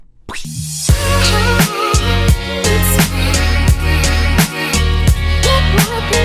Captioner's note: imitates slap; upbeat music